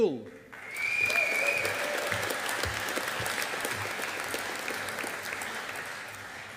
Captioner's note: audience applauding